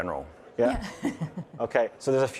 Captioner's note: chuckling